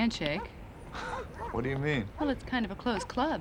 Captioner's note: chuckles